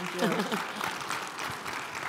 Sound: audience applauding

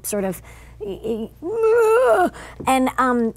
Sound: groaning

